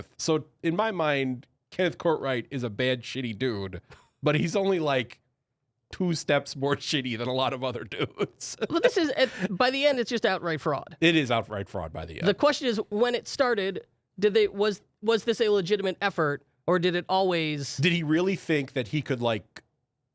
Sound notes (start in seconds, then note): 8.0 laughing